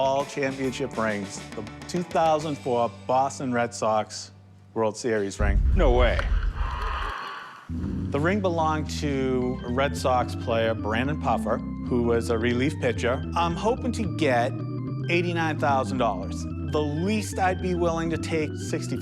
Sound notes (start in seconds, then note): 5.4 ball hitting; 6.2 cheers